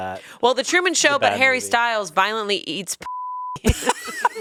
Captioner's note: beep; laughs